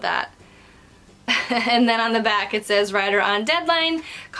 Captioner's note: chuckles